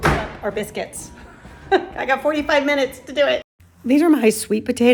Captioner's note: chuckles